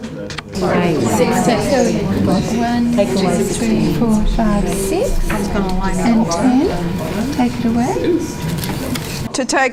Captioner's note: audience chatter